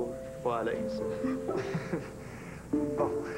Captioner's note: Petit rire